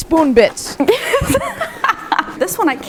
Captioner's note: laughing